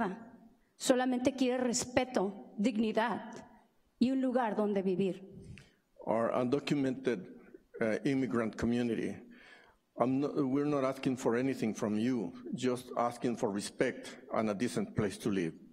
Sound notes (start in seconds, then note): 0.0 speaking spanish